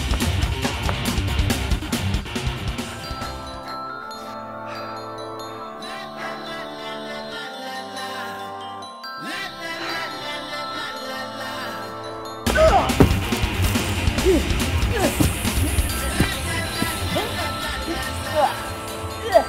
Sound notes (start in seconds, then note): 5.5 panting; 14.7 hissing